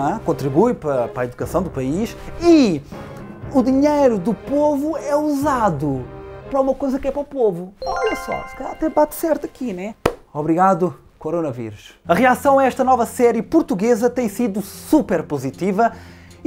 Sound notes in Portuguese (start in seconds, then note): 7.8 som de resposta certa